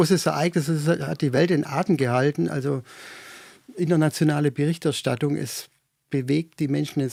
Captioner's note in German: seufzt